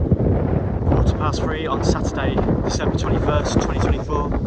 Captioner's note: wind blowing